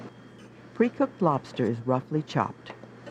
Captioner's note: voiceover